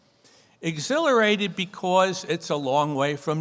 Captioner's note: none